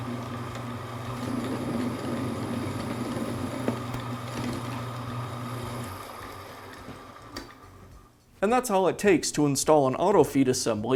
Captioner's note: machine running